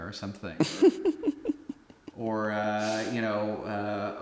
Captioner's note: Anubis giggling